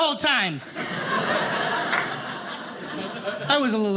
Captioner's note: audience laughing